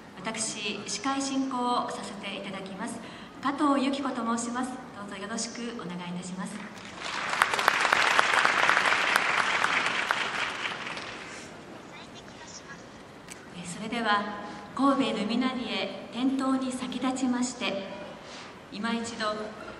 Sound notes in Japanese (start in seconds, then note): 6.6 拍手